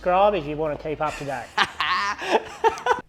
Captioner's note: laughs